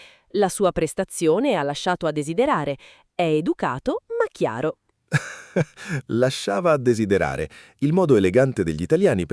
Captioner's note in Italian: risate